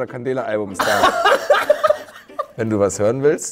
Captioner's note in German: Lachen